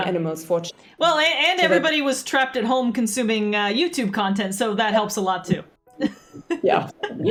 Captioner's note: laughs